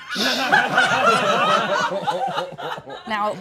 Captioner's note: all laughing